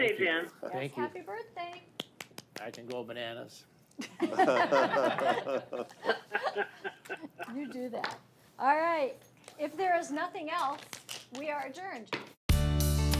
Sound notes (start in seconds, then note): 2.0 claps; 4.2 all laugh